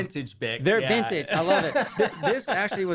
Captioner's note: laughter